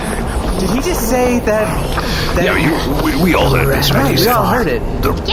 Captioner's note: panting